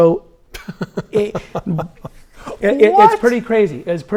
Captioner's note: laughs